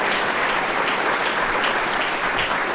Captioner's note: applause